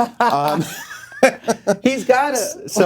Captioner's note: laughing